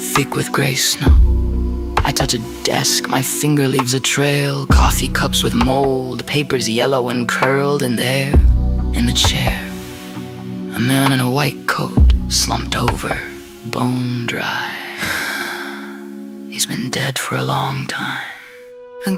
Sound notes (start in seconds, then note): 14.9 Vera, vocal foley, quiet gasp